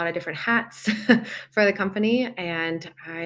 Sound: laughs

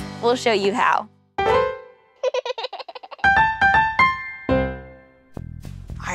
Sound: laughter

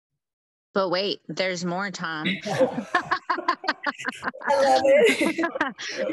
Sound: laughs

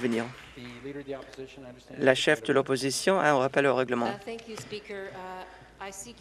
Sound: applause

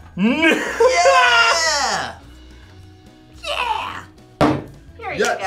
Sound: laughs

